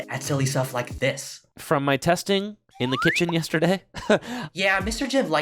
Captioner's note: laughs in Mahone